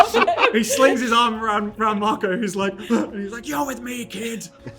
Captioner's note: gasp